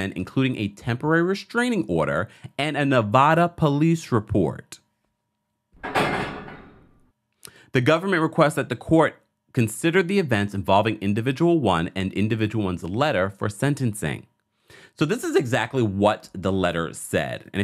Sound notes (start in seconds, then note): 5.8 object clanks